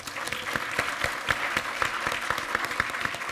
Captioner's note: applause